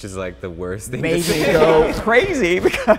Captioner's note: group laughing